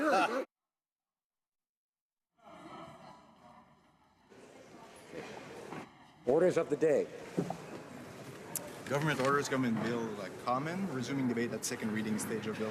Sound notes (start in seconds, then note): 4.4 some laughter